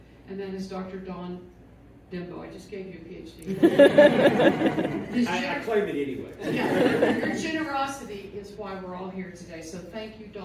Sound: laughter

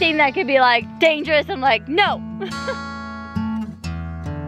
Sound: chuckles

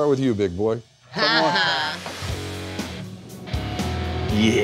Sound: laughing

